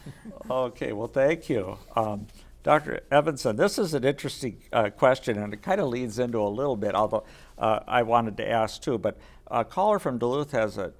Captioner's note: laughter